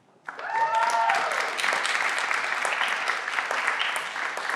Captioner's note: everyone claps